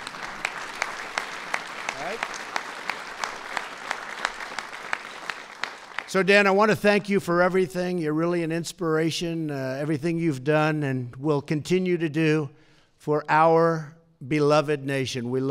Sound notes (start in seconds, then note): 4.0 applause